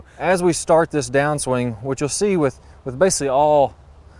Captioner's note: none